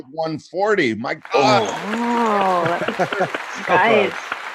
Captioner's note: clapping